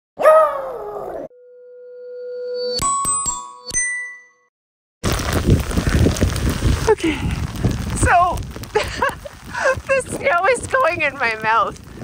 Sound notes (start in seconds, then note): 0.2 howl; 2.0 chime